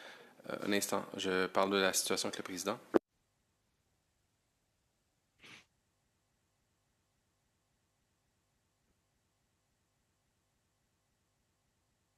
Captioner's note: speaking French